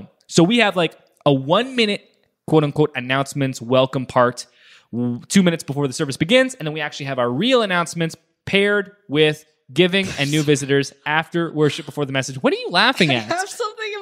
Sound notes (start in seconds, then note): 13.0 laughs